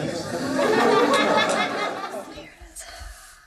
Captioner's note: laughter